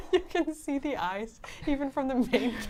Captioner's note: laughs